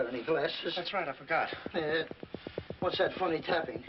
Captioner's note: tapping